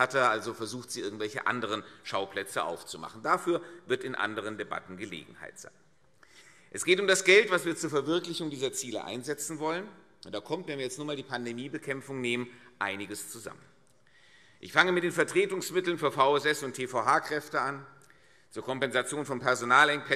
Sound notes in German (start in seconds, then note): none